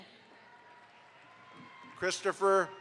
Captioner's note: audience applauds